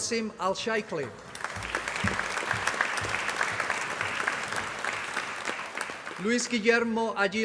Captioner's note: applause